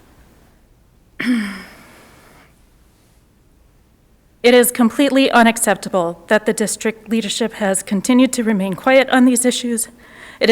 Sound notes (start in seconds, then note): 1.2 clears throat